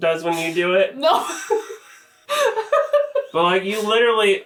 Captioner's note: laughs